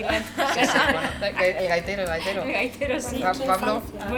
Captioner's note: laughs